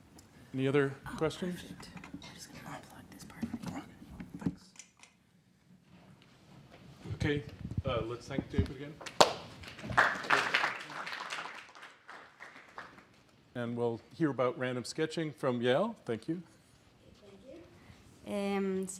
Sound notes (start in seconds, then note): 9.0 applause